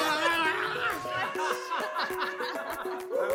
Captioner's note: laughing